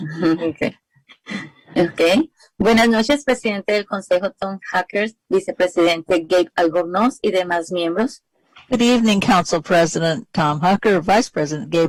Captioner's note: speaking spanish